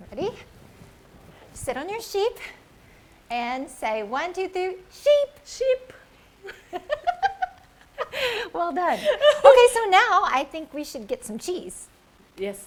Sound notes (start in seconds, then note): 6.4 laughing